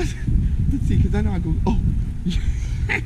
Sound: laughs

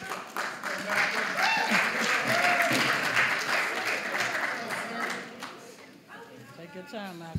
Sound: applause

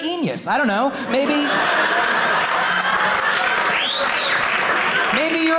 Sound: audience laughing

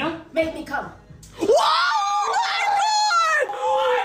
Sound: screams

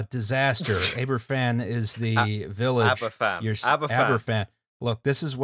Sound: laughing

